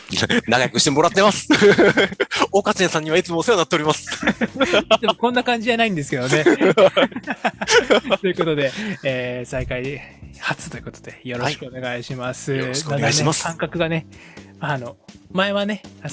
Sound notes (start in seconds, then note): 6.2 laughs